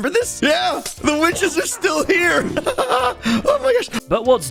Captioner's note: laughs